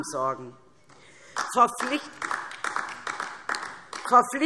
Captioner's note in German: Beifall DIE LINKE